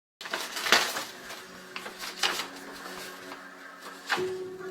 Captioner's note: letter crackles